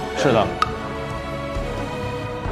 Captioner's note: panicking